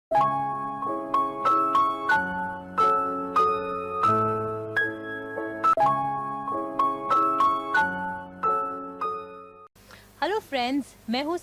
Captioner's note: Hindi